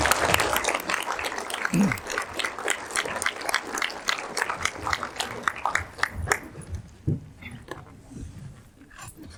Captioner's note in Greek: χειροκρότημα